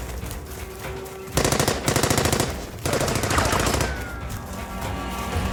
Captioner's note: gunshots blasting